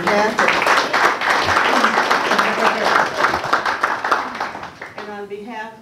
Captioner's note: applause